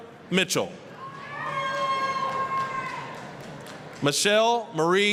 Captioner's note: applause, cheering